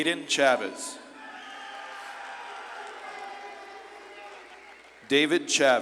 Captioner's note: audience claps and cheers